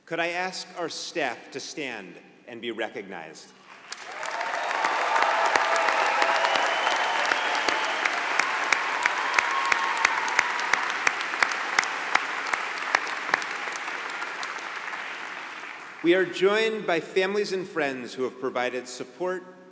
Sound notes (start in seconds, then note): 3.6 applause